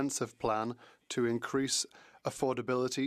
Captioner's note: speaking French